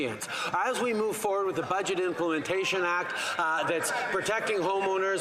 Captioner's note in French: voix de l'interprète